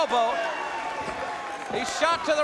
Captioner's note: crowd cheering